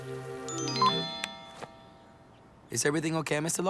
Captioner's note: phone beeps off